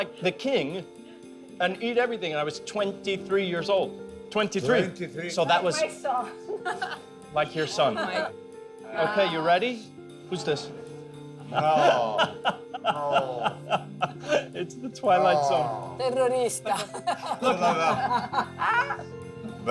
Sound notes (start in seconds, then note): 6.5 chuckling; 11.3 all laughing